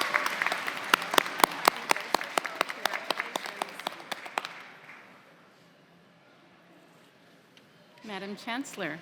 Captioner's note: applause